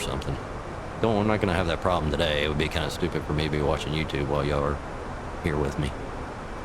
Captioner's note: radio chatter